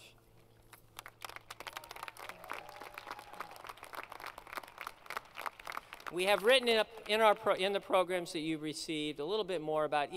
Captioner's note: applause